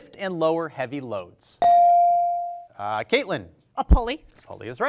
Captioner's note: bell rings